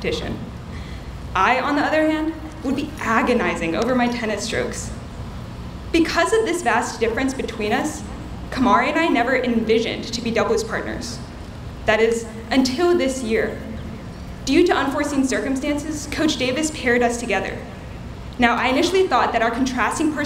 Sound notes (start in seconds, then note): none